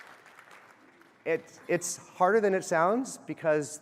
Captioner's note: applause